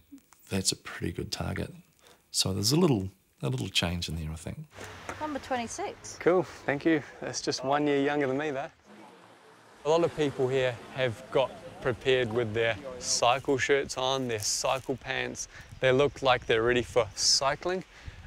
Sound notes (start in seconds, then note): none